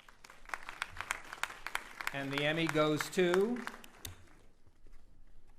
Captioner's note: applauding